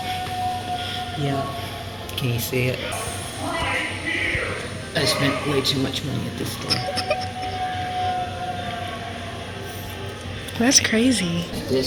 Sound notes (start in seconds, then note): 3.4 animatronic clowns talking in distance; 7.6 giggling